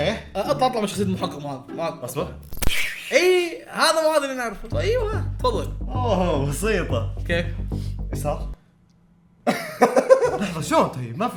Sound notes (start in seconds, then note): 2.5 whoosh; 9.5 laughs